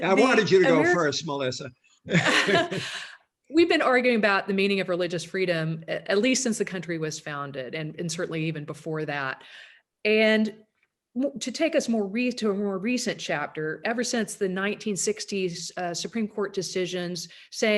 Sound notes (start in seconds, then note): 2.0 laughing